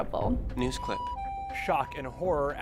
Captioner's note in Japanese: 救急車のサイレン音